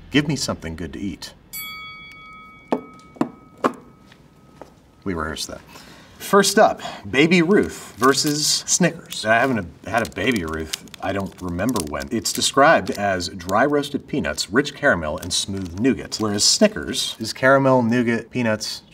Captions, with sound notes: Give me something good to eat. [bell dings] We rehearsed that. First up, Baby Ruth versus Snickers. I haven't had a Baby Ruth, I don't remember when. It's described as dry roasted peanuts, rich caramel, and smooth nougat. Whereas Snickers is caramel, nougat, peanuts,